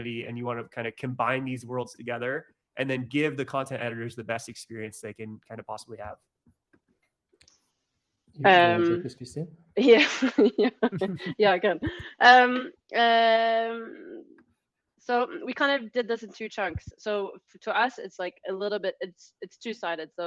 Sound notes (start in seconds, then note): 9.9 laughs; 10.8 laughing